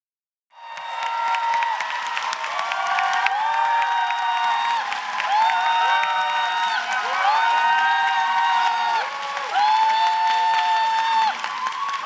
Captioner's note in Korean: 박수와 환호